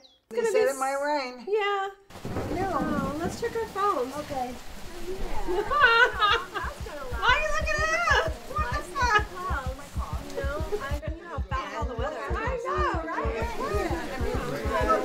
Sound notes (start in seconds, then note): 5.2 Domonique laughing; 11.9 everyone talking